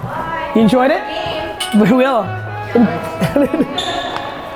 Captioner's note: laughs